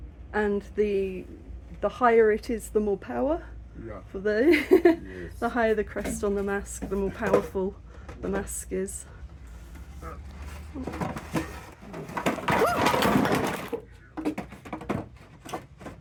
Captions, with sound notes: And the higher it is, the more power? - Yeah. Yes. The the higher the crest on the mask, the more powerful the mask is. [loud clatter] Oh!